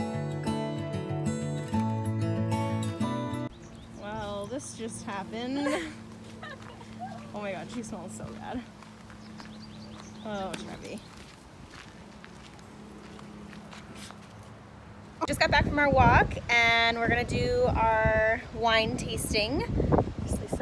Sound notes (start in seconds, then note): 5.5 laughing; 9.5 birds chirping